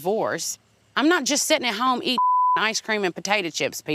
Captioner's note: beep